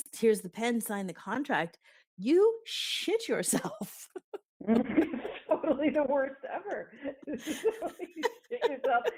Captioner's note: laughing